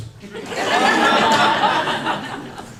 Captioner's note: laughter